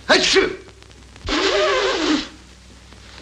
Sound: blows his nose

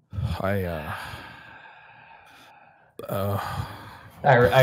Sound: sigh

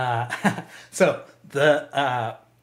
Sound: laughs

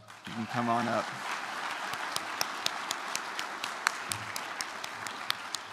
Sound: applause

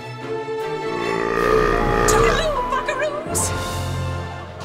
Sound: burping

